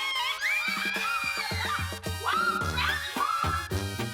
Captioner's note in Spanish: Gritos y exclamaciones